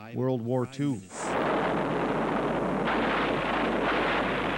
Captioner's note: repeated explosions